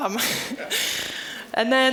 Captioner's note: chuckling